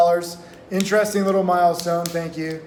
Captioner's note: clapping